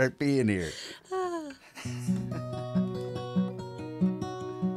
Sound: both laughs; soft guitar music

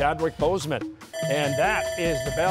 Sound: bell ringing

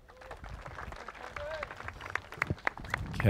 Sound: applause

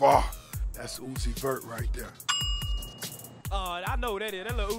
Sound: dings

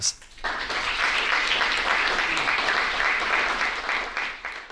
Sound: audience applauding

